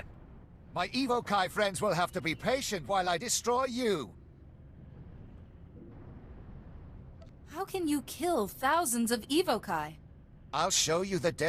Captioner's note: gunshots